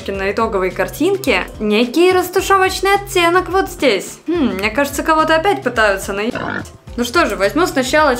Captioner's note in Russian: хрю